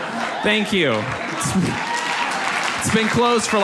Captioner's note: audience applauds